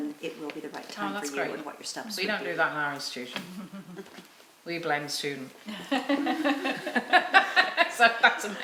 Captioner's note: laughing